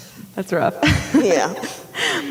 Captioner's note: laughing